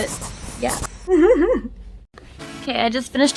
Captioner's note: giggles